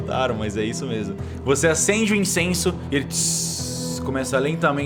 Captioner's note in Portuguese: tsss